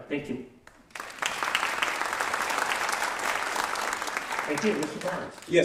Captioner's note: applause